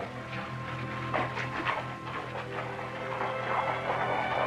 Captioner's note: hooves clopping